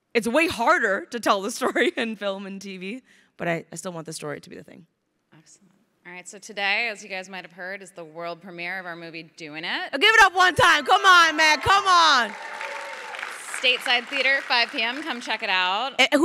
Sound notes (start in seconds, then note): 10.3 crowd cheering; 10.5 crowd applauding